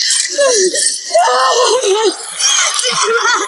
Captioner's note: Jodie sobbing